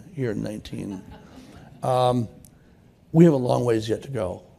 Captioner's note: laughter